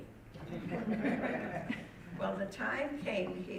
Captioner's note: audience laughing